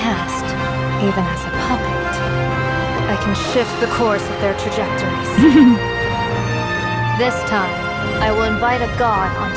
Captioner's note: giggles